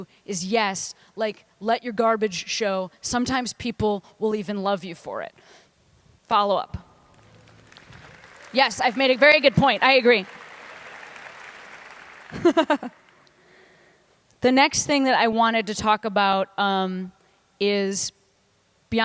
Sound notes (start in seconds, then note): 7.1 applause; 12.2 laughter